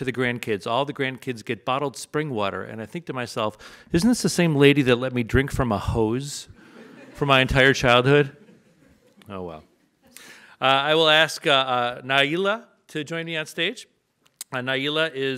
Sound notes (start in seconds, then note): 6.6 audience laughs